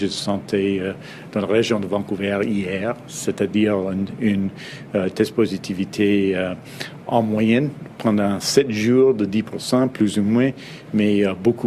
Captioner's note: speaks French